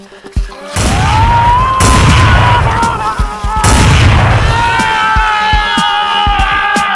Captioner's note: Goochers yelling; gun banging